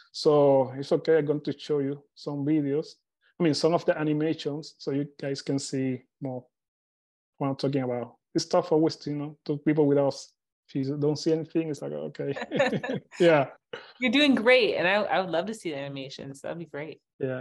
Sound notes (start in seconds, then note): 12.3 both laughing